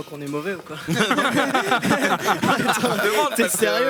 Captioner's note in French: rires